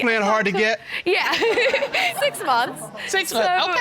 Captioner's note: chuckles